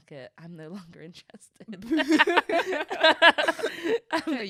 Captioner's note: both laughing